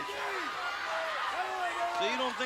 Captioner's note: crowd chattering